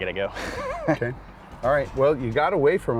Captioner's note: laughs